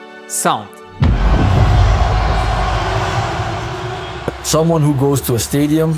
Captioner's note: crowd cheering